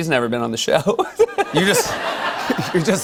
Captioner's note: laughter